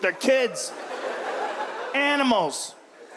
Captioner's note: audience laughs